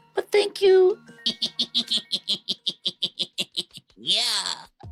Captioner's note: laughter